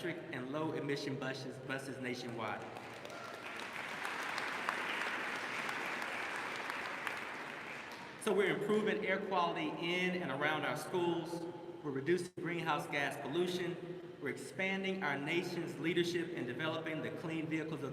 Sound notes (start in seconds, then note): 2.2 applause